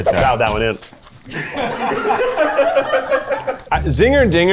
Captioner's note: crew laughing